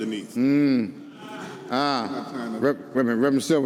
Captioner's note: audience confirming